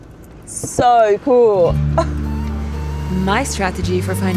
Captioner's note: laughs